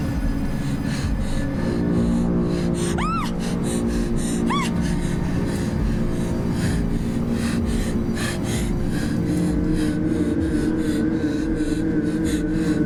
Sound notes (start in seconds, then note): 2.9 screams; 3.4 ominous music; 6.9 breathes heavily; 6.9 ominous droning music